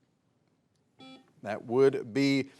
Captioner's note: buzzer beeps